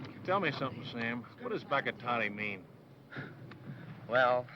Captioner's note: speaking foreign language